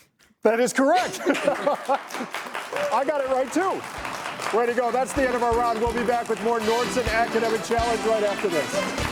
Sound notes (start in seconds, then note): 0.8 chuckling; 3.6 audience clapping; 8.8 audience clapping; 8.8 bright upbeat music